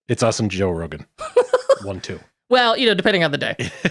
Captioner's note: laughing